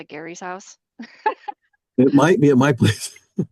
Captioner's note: chuckles